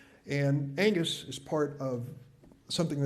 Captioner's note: none